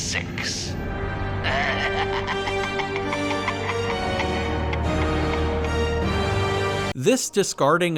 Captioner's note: maniacal laughter